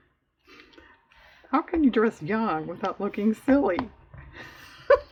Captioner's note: laughs